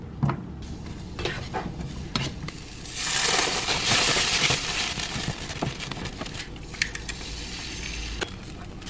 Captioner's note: sizzling